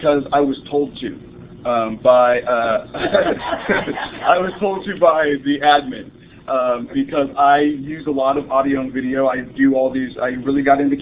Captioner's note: laughter